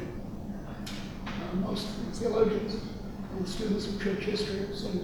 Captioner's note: none